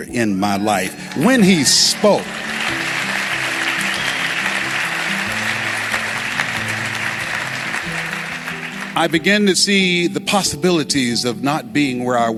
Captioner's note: applause